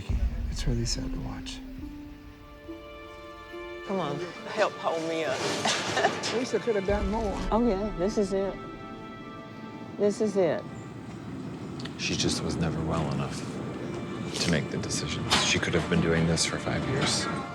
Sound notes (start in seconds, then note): 5.5 laughs